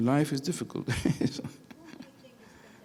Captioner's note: laughing